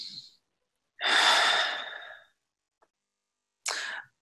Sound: exhales

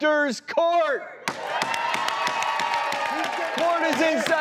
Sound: applause

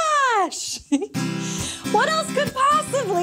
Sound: chuckles

